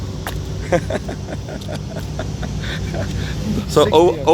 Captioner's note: laughter